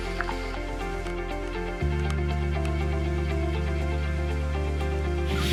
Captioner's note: wind blowing